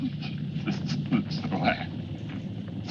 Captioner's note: laughing